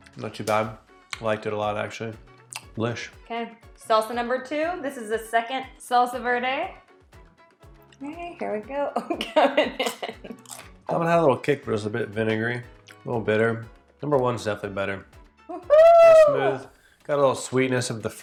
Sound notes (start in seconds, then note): 9.0 chuckles; 10.4 chip crunches